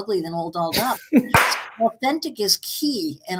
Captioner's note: chuckles; hands clap